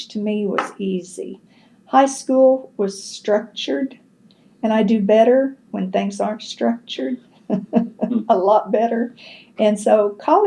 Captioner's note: laughs